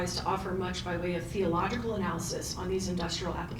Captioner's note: none